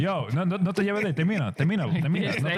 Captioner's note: speaking In Foreign Language